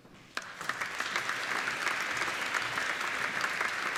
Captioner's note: applauding